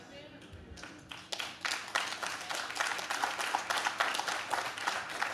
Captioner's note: audience claps